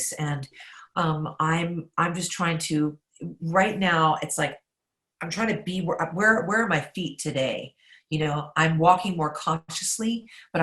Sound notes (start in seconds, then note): none